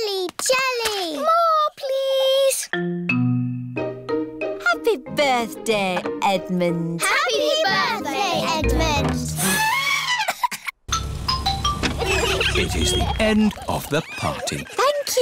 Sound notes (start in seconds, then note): 10.0 trumpets; 10.9 horns honking